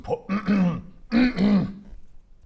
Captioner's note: ahem